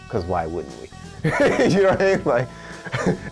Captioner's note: laughs